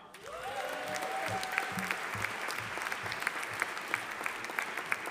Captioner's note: audience applauding